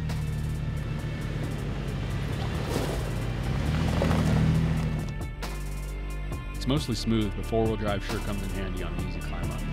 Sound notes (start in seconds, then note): 0.0 vehicle engine roaring; 1.0 upbeat music